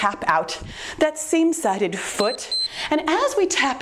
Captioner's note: timer beeps